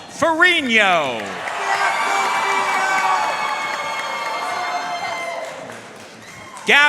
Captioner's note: audience cheering and applauding